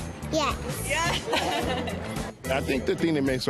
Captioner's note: laughs